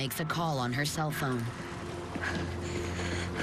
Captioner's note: panting